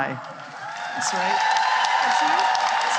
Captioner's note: cheering and applause